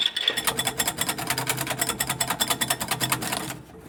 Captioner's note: whisk rattles